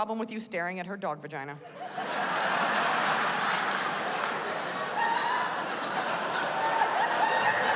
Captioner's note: laughter